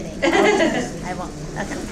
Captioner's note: laughing